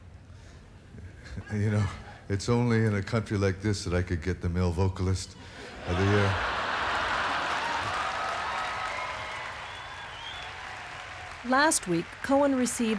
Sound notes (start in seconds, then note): 10.8 audience laughs and cheers